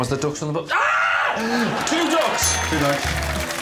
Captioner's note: screams